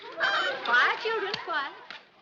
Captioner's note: girls twittering